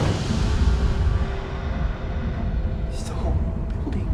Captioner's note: voice growls